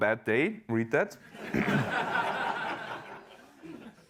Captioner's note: laughter